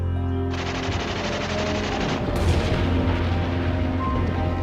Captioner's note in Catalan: Dispars i explosions